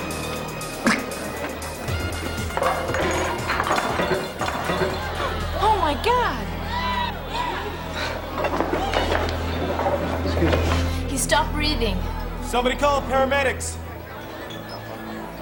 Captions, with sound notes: (gasping) (glasses shattering) Oh my God! - Excuse me. - He stopped breathing. - Somebody call the paramedics.